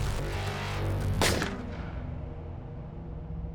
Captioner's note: gun fires